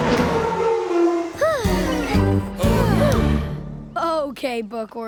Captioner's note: sighing